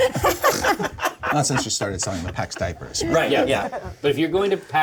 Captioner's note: laughter